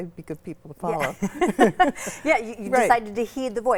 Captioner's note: laugh